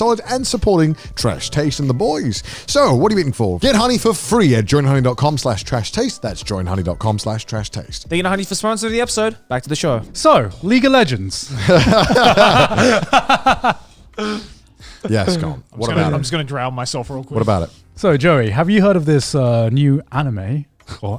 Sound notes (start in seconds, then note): 11.5 all laughing